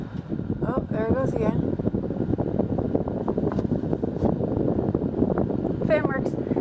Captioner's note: windy sound returns